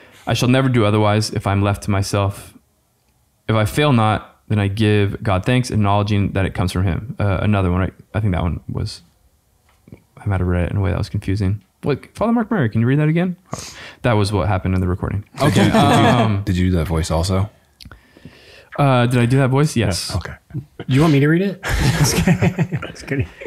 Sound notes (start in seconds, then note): 15.4 chuckles; 21.6 all laughing